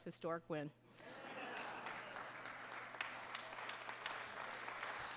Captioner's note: applause